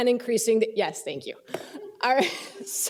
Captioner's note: laughter